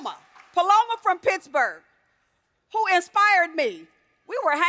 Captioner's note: applause